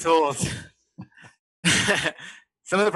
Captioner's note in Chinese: 笑声